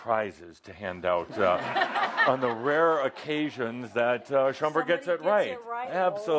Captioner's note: laughter